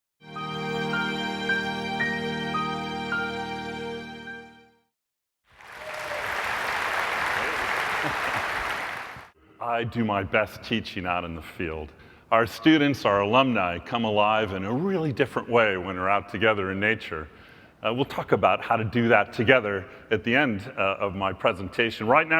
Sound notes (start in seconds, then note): 5.5 applause